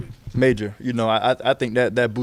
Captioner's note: stutters